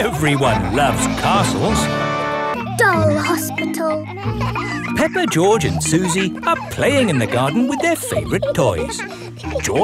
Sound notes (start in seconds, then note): 4.3 kids laughing